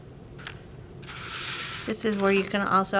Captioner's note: paper rustling